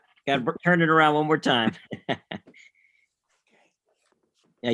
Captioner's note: laughing